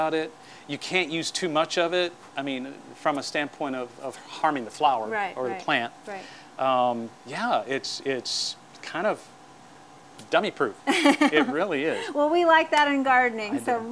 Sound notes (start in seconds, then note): 10.9 laughing